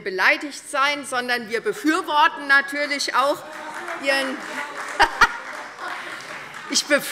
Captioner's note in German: Lachen und Beifall Freie Demokraten